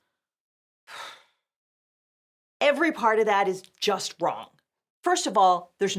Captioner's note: huffs